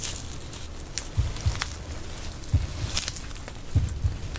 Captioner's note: you're nervous, the sound of your heartbeat